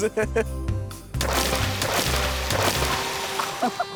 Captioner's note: water splashes; people laughing